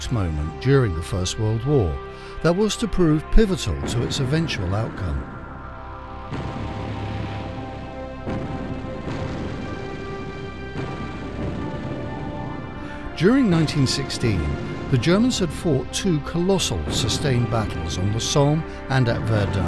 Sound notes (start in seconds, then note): 6.3 dramatic music; 6.3 explosions boom; 8.2 guns bang